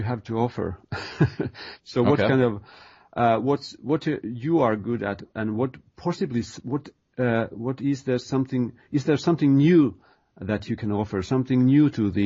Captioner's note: chuckle